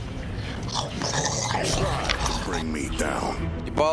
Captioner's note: pig munching sounds